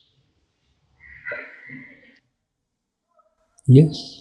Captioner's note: audience laughs